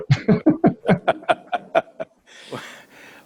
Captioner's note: both laugh